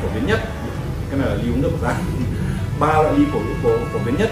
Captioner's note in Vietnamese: cười